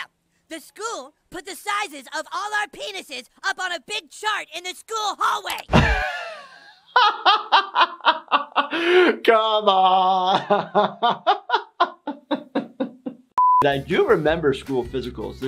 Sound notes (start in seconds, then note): 5.6 laughs